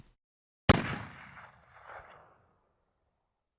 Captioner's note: gun fires